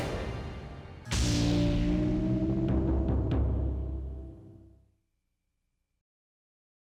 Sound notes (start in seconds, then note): 0.0 lightning cracks; 0.0 tense music